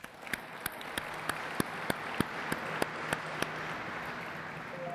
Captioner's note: everyone applauds